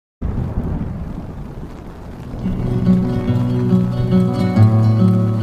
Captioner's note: thunder rumbling; gentle music